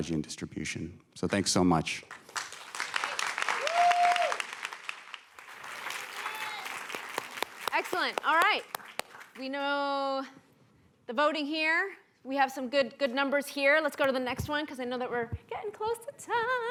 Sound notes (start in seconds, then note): 2.0 applause